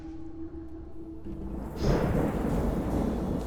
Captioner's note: thunder rolling